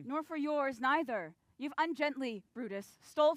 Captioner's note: none